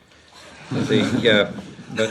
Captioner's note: laughter